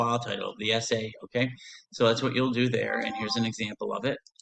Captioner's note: ringtone